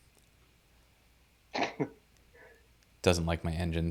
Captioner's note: laughs